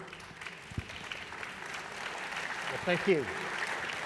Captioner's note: applause